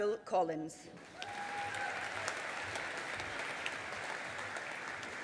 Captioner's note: audience applauding